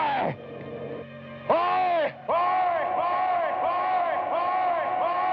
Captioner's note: echoing